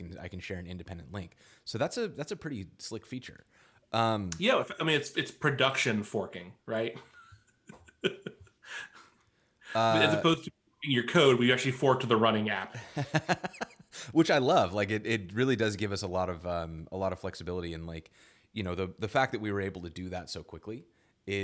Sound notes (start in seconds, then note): 7.0 laughs